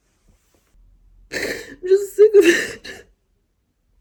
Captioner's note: cries; sniffles